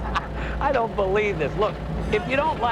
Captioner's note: laughing